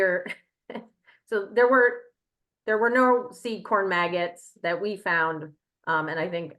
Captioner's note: chuckles